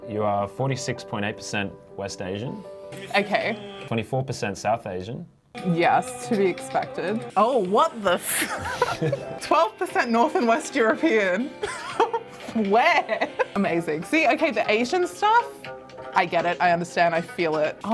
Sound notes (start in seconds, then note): 8.3 both laughing; 12.8 laughs